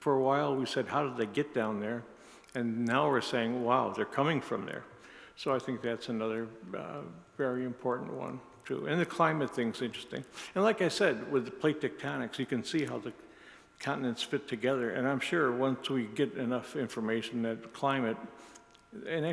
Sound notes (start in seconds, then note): none